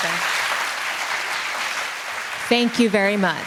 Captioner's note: applause